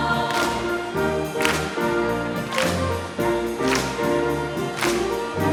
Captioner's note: choir members clapping